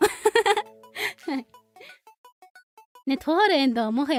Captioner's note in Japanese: 笑い